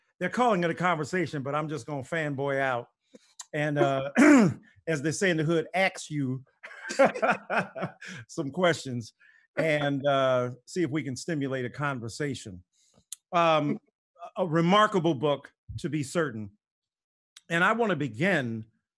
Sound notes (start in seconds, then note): 6.7 laughs